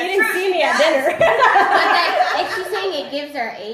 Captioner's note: laughs